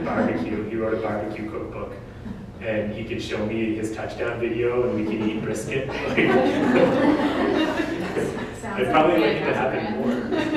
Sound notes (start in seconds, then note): 4.9 audience: Laughter